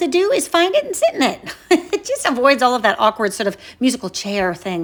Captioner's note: chuckles